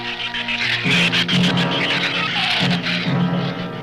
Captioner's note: shrews chatter